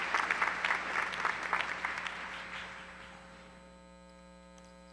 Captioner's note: applause